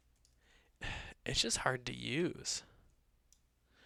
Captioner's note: sighs